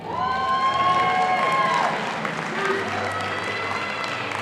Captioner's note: audience applauding